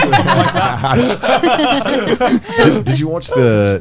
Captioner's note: all laughing